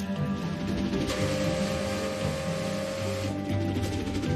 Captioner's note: train engine revving